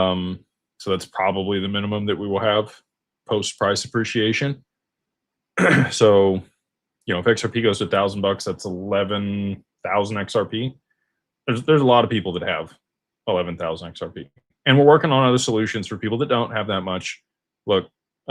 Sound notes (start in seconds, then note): 5.6 clears throat